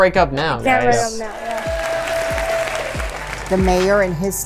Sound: crowd cheering and applauding

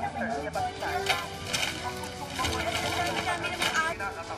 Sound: rattling

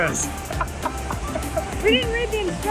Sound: laughs

